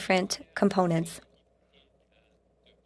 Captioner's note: speaking French